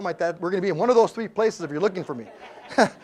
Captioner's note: laugh